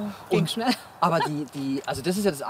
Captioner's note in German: lacht